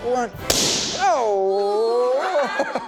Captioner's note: balloon popping; group giggling together